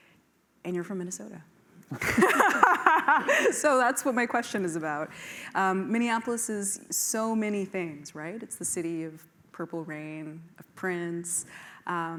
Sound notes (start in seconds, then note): 1.9 laughter